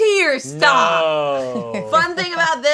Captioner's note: laughing